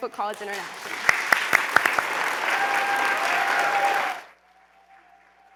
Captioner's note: applause